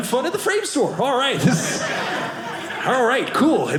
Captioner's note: audience laughing